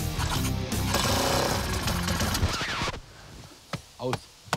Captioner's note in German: Der Motor knattert und geht aus